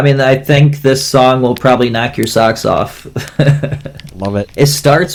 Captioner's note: laughs